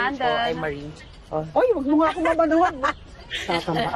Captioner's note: laughs